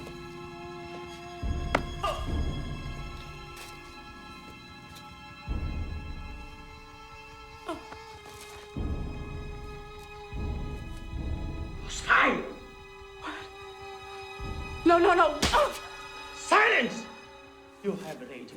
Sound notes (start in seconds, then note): 1.4 grunts